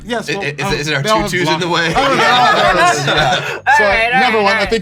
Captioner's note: laughter